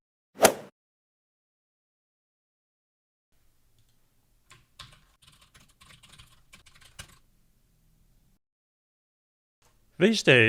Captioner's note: golf swing sound effect